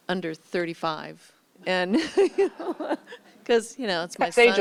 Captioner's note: laughter